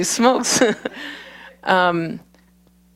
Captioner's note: laughter